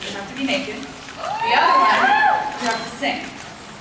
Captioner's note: cheers